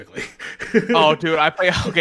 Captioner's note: laughs